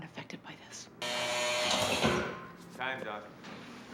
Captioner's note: buzzing